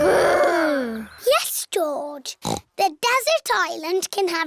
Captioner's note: snorts